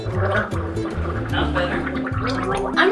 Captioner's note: gargles with less choking; tries to talk and gargle simultaneously